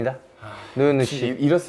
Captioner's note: phew